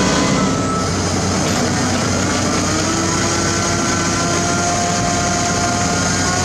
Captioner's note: engine Rev